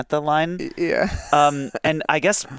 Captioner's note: chuckles